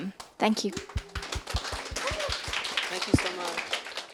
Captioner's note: attendees applauding